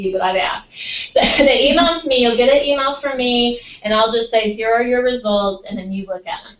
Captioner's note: laugh